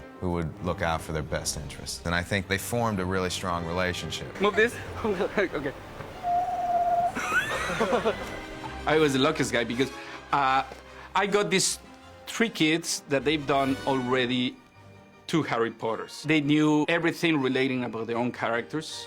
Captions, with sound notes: Who would look out for their best interests. I think they formed a really strong relationship. -Move this. -Okay. [WHISTLES] [LAUGHING] I was the luckiest guy, because, uh... I got these three kids, that they've done already two Harry Potters. They knew everythingrelating about their own characters...